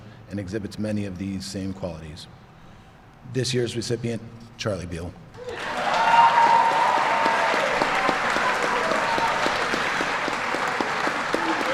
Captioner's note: applause